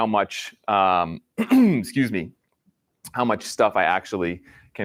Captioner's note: clears throat